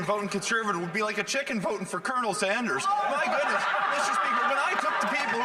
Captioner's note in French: voix de l'interprète